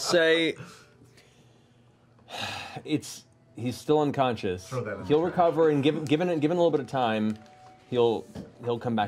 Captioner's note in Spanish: suspira